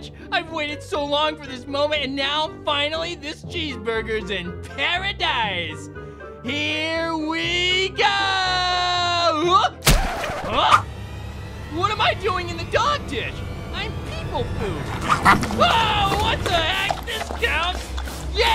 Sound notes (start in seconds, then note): 10.0 record scratches